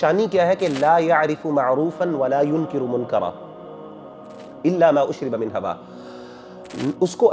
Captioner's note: Arabic